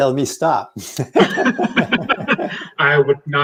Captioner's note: both laughing